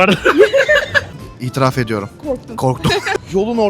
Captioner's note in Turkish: kahkaha